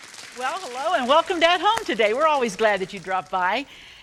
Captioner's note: hands clap